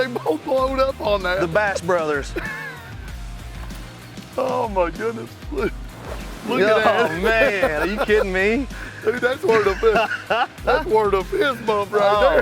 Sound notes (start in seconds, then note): 2.2 laughs